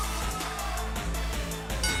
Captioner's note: bell ringing